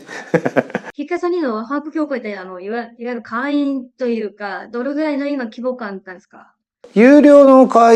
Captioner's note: laughs